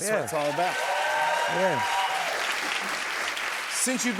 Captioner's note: cheers and applause